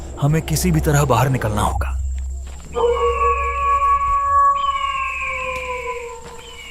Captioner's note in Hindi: चीखने की आवाज़